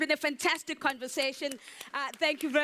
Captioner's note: audience applauds